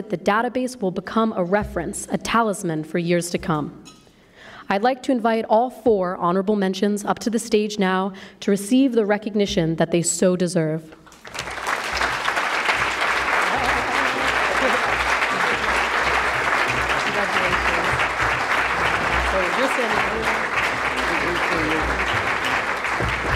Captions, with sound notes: the database will become a reference, a talisman for years to come. I'd like to invite all four honorable mentions up to the stage now to receive the recognition that they so deserve. [ Applause ] Congratulations. [ Applause ]